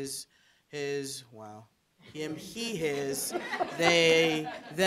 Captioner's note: audience chuckling